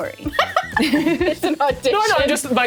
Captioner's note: laughing